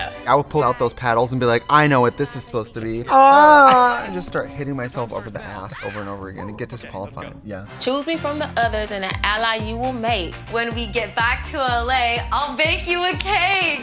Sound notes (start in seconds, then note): 3.0 Trixie moans